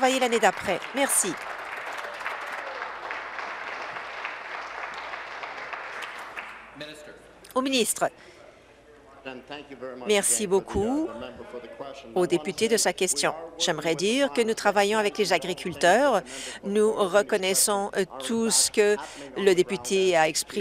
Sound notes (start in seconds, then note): 6.0 some Applause